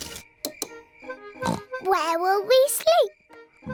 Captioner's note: oinks